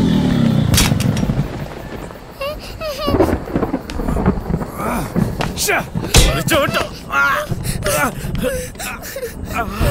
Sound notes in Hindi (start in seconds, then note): 2.9 बादल गड़गड़ाते हुए; 7.4 कराहना